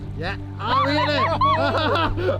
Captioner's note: laughing